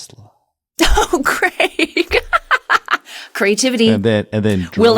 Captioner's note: laugh